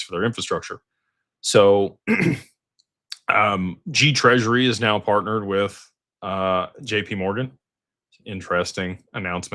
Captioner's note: clears throat